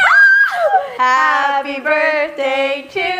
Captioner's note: happy squeal